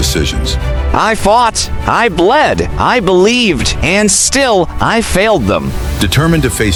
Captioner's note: internal, strained